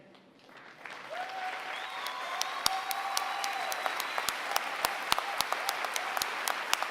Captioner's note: applause